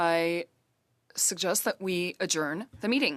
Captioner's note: speaking French